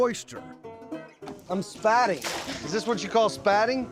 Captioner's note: splash